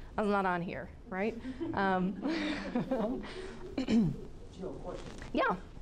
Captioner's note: class laughing